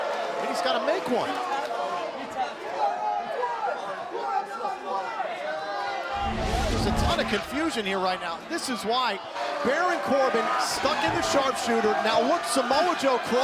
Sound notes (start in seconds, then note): 3.5 crowd chatter